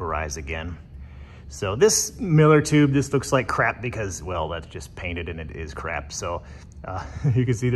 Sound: chuckles

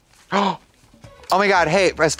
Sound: Trixie gasps

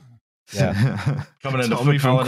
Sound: laughter

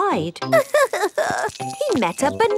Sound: crying

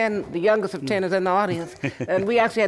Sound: laughter

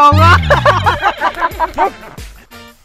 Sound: laughing

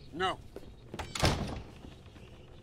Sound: slams door

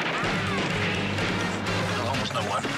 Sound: gunfire; gunshots

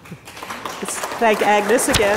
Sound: audience applauds

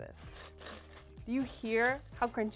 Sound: fries rattling

